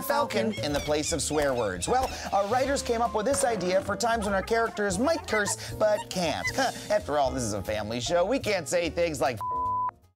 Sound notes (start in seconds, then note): 4.0 chuckles